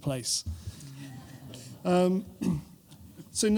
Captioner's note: laughter